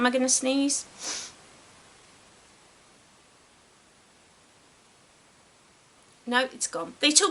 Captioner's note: silence while she decides will she sneeze or not??